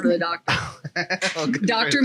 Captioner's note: laughs